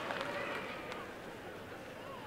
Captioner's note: applause and cheering